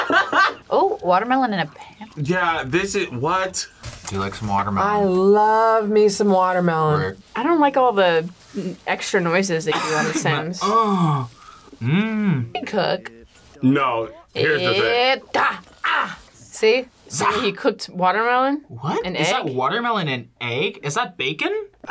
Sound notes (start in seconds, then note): 0.0 laughs; 10.5 moans; 15.4 speaks Simlish